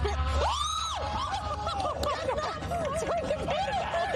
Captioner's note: screaming; laughter